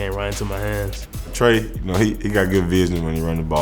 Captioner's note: voiceover